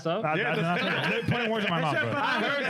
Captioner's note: speaking In Foreign Language